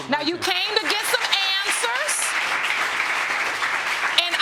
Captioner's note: audience applauding